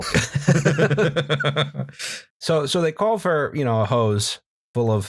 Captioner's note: laughter